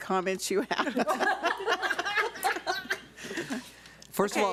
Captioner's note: board members laugh